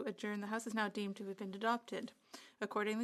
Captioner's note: speaking in French